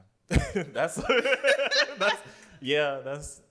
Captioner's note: laughter